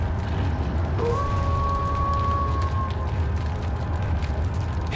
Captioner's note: menacing music; wolf howling